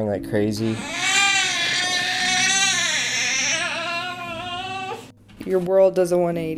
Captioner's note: crying